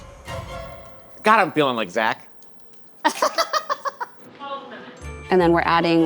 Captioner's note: laughs